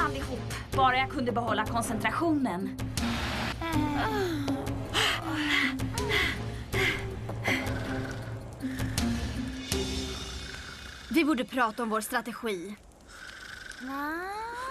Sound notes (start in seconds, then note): 4.2 panting